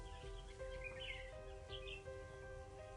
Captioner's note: birds chirping